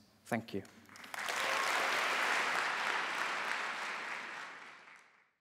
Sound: applause

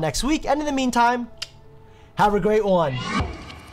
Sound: mouth clicks; whooshing

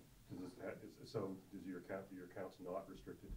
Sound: voiceover

